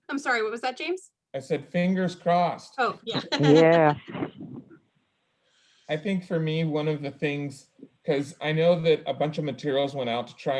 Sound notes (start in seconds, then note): 3.0 laughs